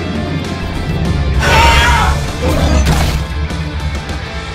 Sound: dinosaur growling; Squealing Scorpius

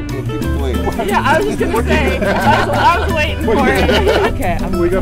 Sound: laughter

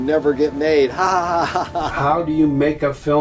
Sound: laughs softly

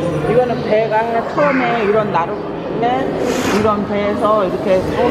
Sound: speaking in Korean

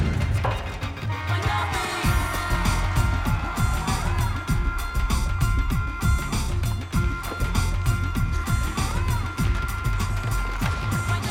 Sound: buzzer

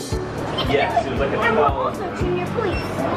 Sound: talking

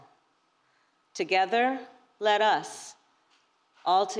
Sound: none

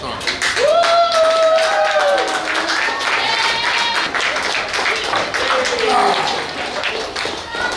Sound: cheering & Clapping

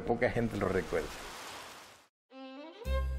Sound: rain spattering; whimsical string music

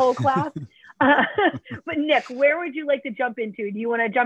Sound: laughter

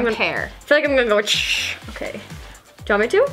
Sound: spraying noise

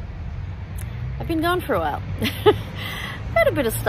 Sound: laughs wryly

